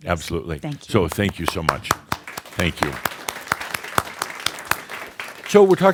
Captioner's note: audience applause